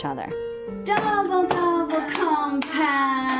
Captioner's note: chanting and clapping